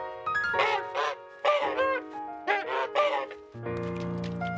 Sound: honks

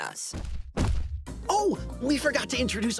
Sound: heavy footsteps pounding

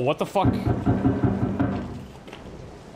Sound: loud banging

